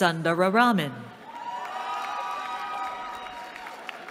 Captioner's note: cheering